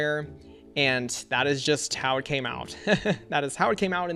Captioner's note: laughs